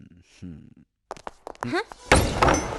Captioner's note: none